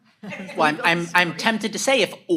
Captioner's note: audience laughs